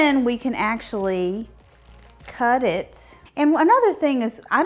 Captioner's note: leaves rustling